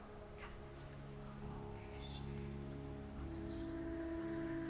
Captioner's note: faint whispering